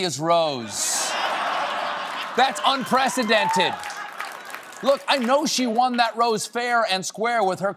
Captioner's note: laughter